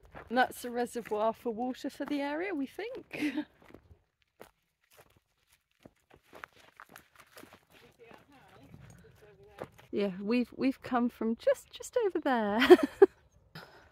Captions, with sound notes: And that's a reservoir for water for the area, we think. - Can you see our house, just over there? Yeah, we've we've come from just- just over there. [laughing]